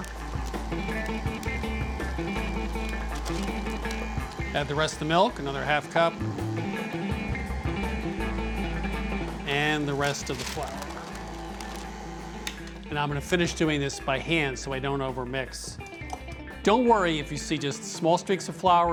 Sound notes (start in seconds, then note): 11.8 mixer stops